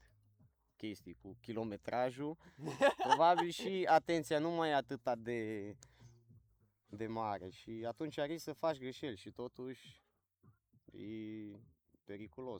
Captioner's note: laughs